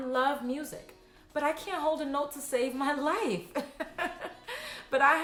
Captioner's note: laughs